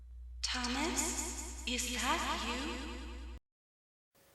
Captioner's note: echoes